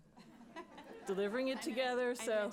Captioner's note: laughter